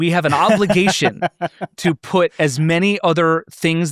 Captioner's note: laughs